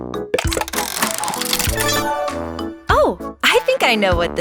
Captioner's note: mechanical whirring